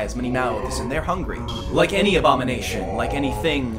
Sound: multiple distorted voices

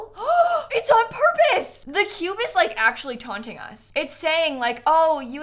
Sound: gasps

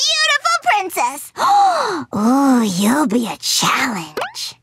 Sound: gasping

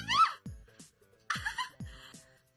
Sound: laughs

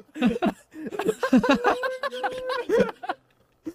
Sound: quiet laugh; quieter laughter; laughs again

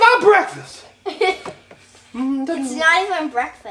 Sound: assistant giggles

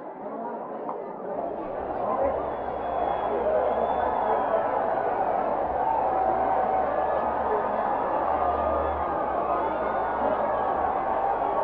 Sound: muffled audience noise

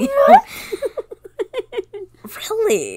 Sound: laughing

